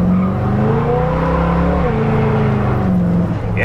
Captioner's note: car revs